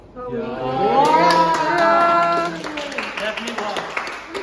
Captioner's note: everyone exclaims in surprise